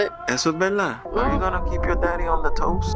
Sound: Papi speaks in Spanish

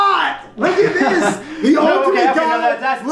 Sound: laughs

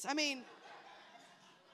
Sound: attendees laughing

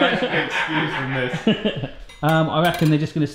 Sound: laughs

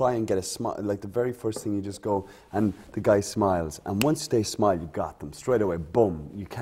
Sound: snap

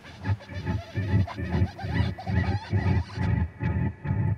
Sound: bird calling

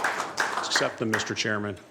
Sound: applause

